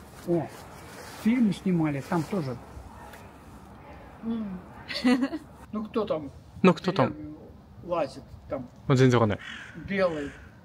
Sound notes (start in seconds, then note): 7.3 laughs